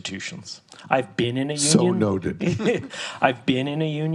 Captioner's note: both laughs